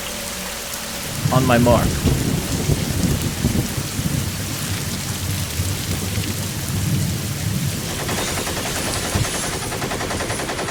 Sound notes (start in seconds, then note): 2.1 thunder rolling; 7.8 shots firing